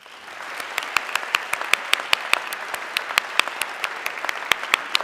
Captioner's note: audience clapping